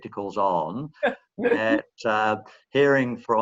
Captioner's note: laughing